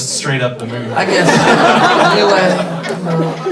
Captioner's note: everybody laughing